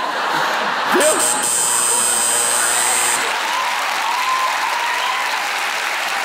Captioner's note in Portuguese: campainha e aplausos